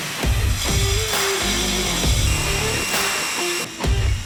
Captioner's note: drill whirring